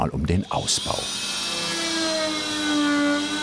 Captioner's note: loud sawing noise